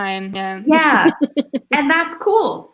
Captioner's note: laughs